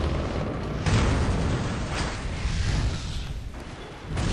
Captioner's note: propeller beating; explosion booming